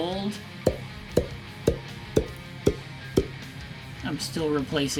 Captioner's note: six pop sound effects